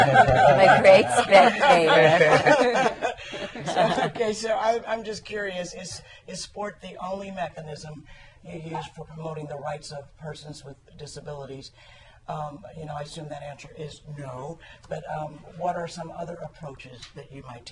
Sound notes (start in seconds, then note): 2.6 laughter